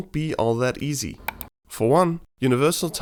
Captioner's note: mouse clicks